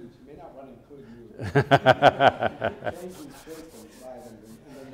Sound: laugh

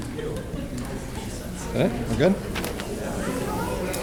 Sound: crowd talking

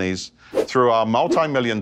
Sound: graphic whooshes

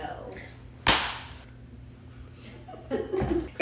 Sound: slaps thighs

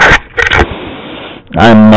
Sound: exhales

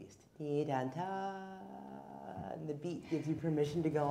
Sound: humming

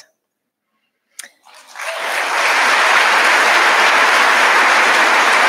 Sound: audience applauding

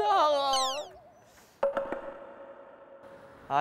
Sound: sniff

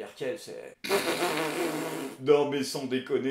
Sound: chortles

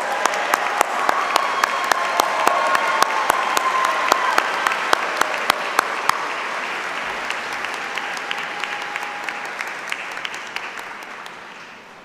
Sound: applause

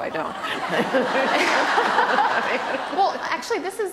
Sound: laughter

